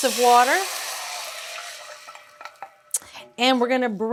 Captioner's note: water sizzling